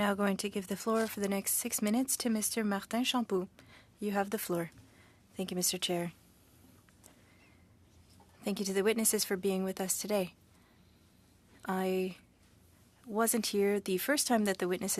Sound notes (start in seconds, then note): 3.8 speaking French